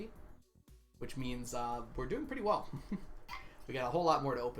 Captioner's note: chuckles